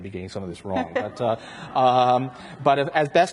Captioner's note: everyone laughs